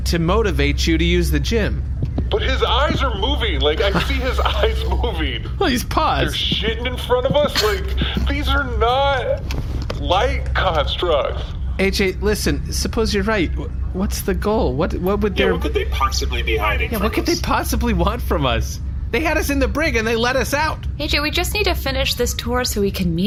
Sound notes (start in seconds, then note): 5.1 laughing